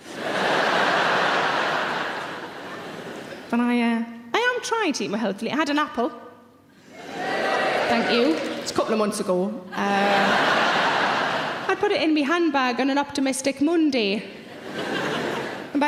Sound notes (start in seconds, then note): 0.0 audience laughing; 7.0 audience cheering; 9.8 audience laughing; 14.4 audience laughing